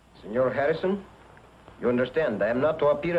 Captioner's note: spanish accent